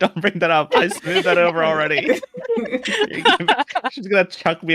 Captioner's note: laughter